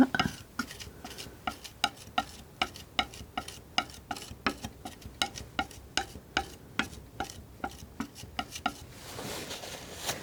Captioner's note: tapping